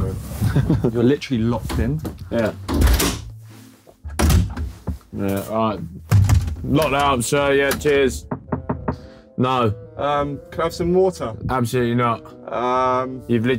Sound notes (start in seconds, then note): 2.6 door closing; 8.1 knocking on door